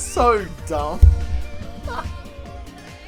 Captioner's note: Kiwi laughs